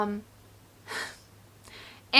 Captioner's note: laughs